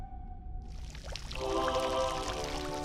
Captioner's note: trickling water; choral music